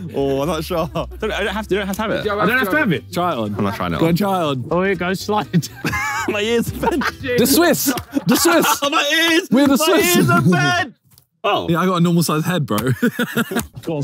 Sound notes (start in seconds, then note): 5.5 Ethan laughing; 8.6 chuckles; 12.8 laughs